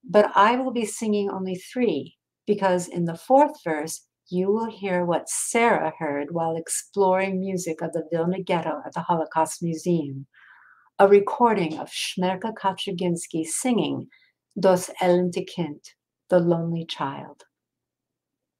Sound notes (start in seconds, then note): 14.7 speaking in foreign language